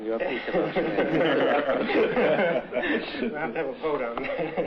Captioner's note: laughter